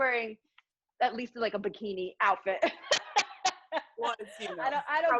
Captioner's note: laughs